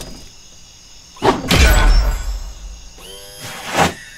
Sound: slamming fist into ground

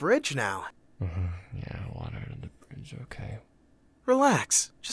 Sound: grumbling

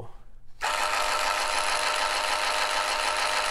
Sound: whirs

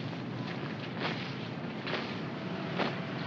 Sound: heels stomp; feet marching

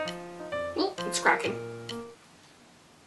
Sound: quietly

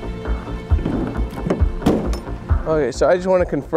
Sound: door slamming

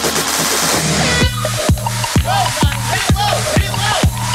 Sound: techno music; air horn blows; contestants yelling

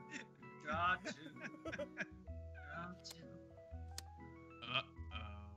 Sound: laugh

